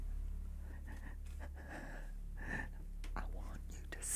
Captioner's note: Sue panting